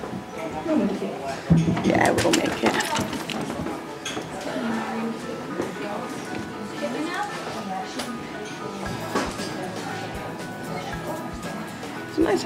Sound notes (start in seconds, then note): 4.4 noises of hotel